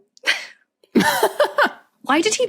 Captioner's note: laughs